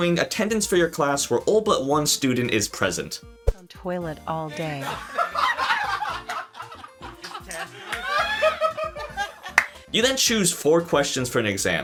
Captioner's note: laughing intensifies